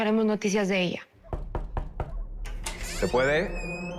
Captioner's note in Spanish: Toques en la puerta